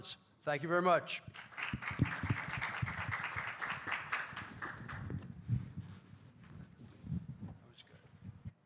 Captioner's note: applause